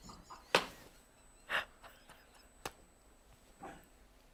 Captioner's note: laughter